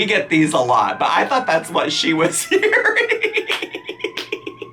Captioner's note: laughs